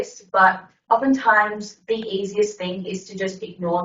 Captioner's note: none